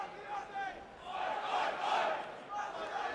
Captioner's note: fans chanting